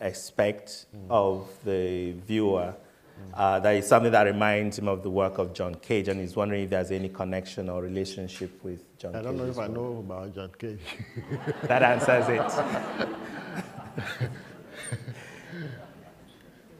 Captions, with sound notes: expect of the viewer, that is something that reminds him of the work of John Cage and he was wondering if there's any connection or relationship with John Cage. - I don't know if I know about John Cage. (laughter) - That answers it.